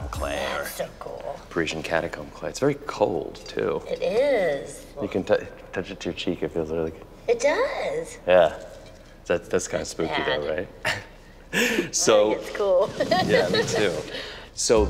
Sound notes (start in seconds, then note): 12.8 laughs